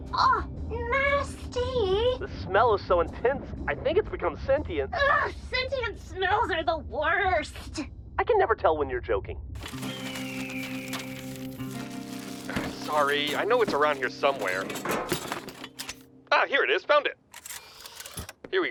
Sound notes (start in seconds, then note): 12.8 sifting around through junk